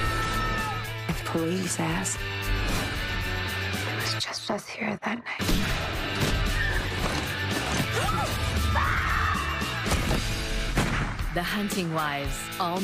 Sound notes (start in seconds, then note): 6.8 shot gun blast; 10.6 gunhot